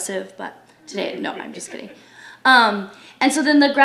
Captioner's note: audience laughs